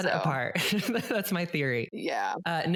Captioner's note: laughs